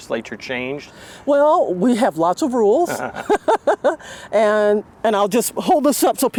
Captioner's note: laughs